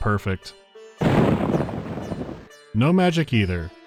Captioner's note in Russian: раскат грома